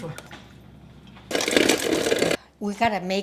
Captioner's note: ice rattling